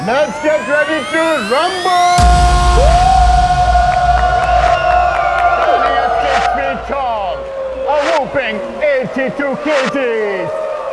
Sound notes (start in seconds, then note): 2.9 shouting